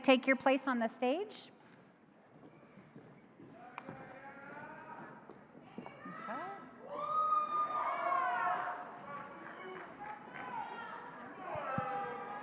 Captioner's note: applause